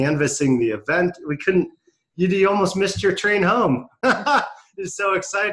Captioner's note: laughs